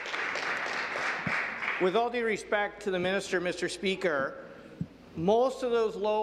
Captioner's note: some Applause